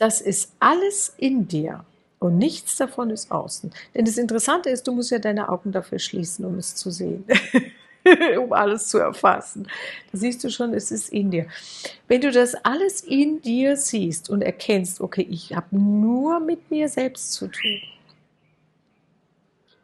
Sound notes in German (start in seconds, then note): 7.3 gelächter